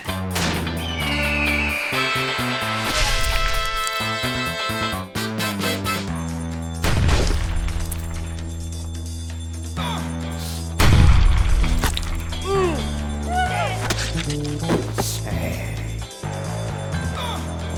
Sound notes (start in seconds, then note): 0.9 bird screeching; 6.8 gunshot; 10.8 shotgun blast